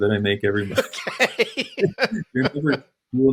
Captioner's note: laughter